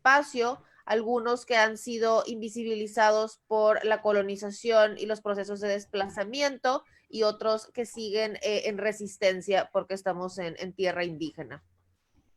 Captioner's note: Spanish